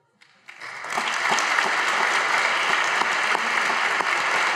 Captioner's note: audience applauds